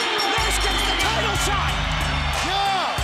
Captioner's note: bell ringing